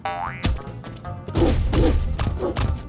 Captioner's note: boink; barking